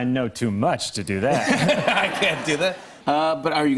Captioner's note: laughter